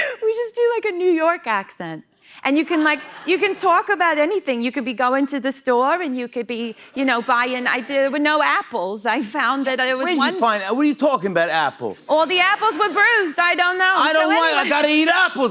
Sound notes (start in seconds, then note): 2.8 Brooklyn accent; 10.0 bronx accent